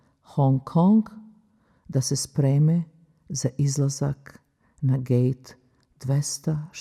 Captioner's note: speaking in Foreign Language